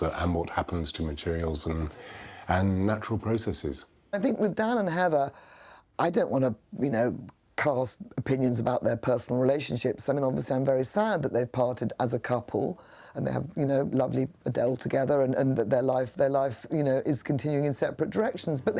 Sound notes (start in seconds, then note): none